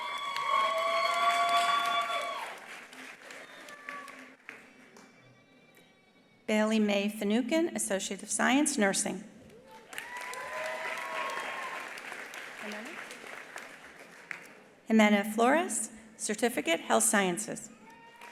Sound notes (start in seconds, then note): 0.0 attendees applauding; 9.5 attendees applauding; 9.6 attendees cheering; 17.8 attendees cheering; 17.8 attendees applauding